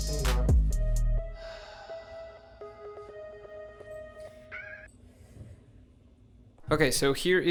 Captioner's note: audible Sigh